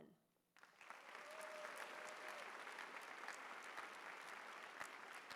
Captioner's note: applause